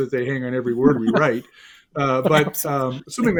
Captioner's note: all chuckle